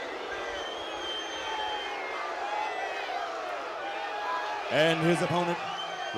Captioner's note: crowd cheering